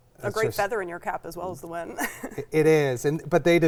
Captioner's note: laughs